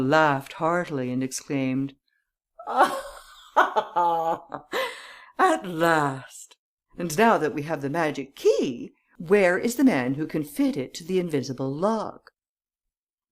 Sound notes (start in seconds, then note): 4.8 gasps; 5.6 laughter